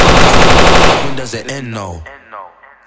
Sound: shots fired

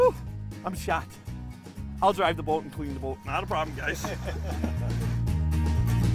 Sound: laughing

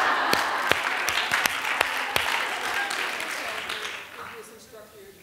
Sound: laughter; applause

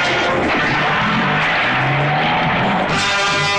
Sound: jeep Engine

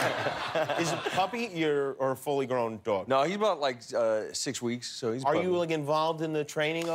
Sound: laughter

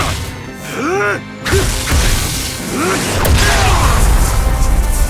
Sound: Jin grunts; Hwoarang groans loudly

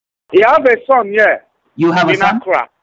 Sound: voice raising

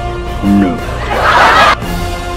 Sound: laughter

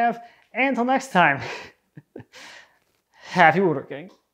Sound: chuckling

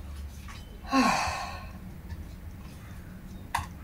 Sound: she sighs

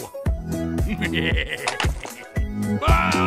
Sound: evil laughter 2.wav

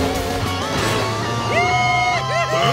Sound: cheering

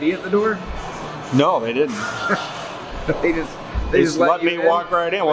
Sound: laughs

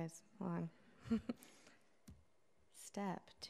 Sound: chuckles

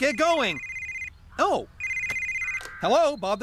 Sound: cell Phone Rings

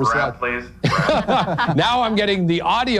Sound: laughing

